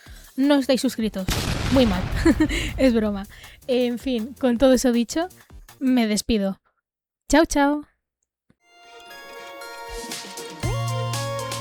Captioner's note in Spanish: risas